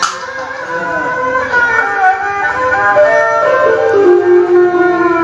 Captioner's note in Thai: ปรบมือ